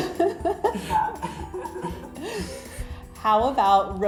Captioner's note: laughter